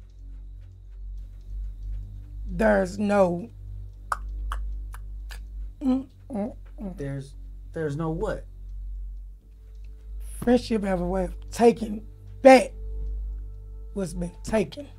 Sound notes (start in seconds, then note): 3.9 clicks